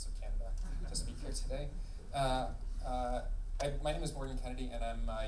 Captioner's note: laughing